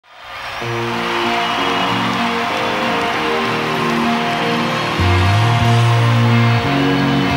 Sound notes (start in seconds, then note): 0.0 crowd cheering; 0.6 tranquil guitar music